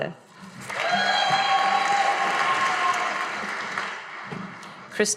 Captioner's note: audience applauding